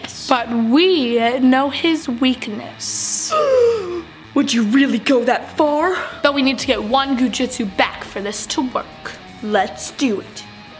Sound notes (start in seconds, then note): 3.3 gasps